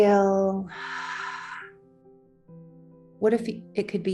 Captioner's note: exhales